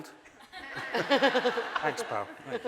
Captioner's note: audience laughing